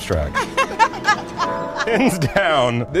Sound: laughing

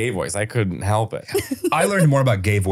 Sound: laughing

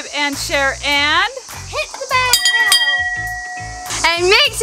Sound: bell rings

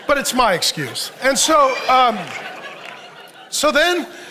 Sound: audience laughs

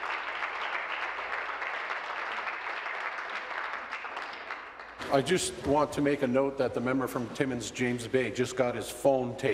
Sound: applause

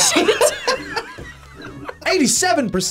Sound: both laugh

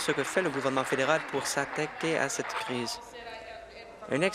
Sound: applause

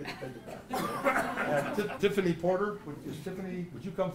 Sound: laugh

